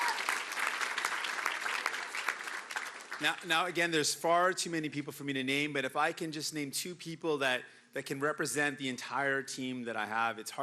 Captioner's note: cheering and Applause